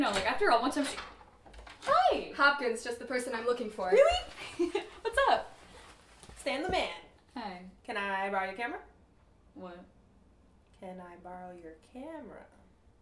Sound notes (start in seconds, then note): 4.3 giggles like an idiot; 6.9 not enthusiastic